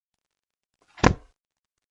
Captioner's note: book closes